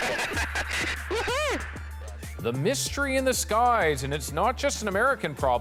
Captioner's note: laughter